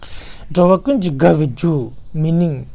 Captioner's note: tibetan